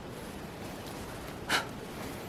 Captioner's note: blows out candle